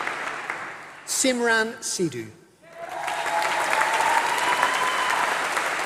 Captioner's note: applause